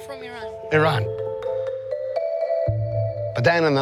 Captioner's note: phone ringing